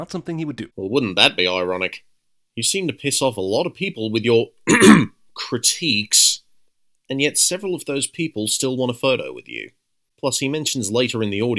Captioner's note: ahem